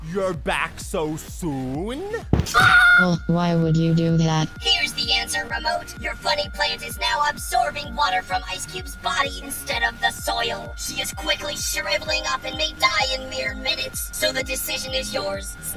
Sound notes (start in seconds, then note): 2.6 Ice Cube screams